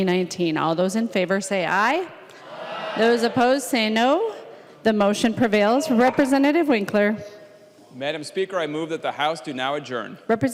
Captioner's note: chorus of ayes